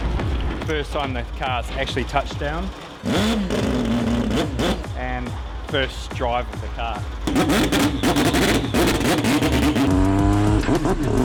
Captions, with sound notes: First time the car's actually touched down (Engine revving) and first drive of the car. (Engine revving)